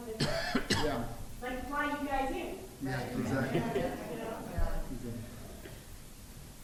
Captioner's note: chatter from the crowd